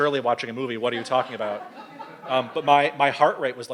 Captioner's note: audience laughs